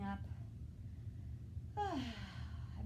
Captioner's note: exhaling